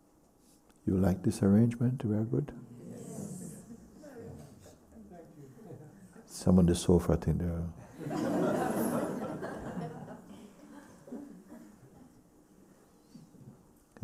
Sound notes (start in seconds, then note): 2.6 voices in group; 7.9 laughter